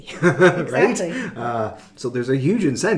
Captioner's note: laughing